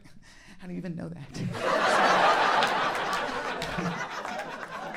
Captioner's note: audience laughing